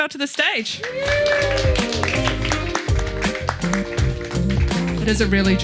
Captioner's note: audience applauding